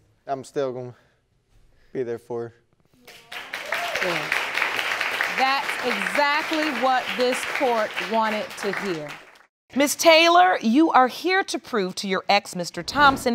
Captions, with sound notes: I'm still gonna be there for her. (AUDIENCE APPLAUDING) That's exactly what this Court wanted to hear. Miss Taylor, you are here to prove to your ex, Mr. Thompson,